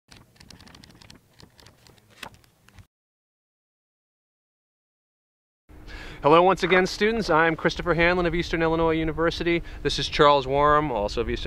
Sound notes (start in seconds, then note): 0.1 book pages flipping